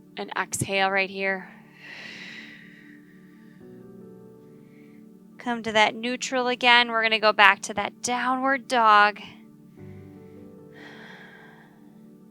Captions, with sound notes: And exhale right here. (exhaling) Come to that neutral again. We're gonna go back to that downward dog. (gentle music)